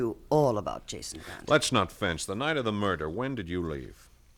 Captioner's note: chuckles